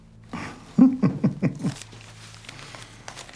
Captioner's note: chuckles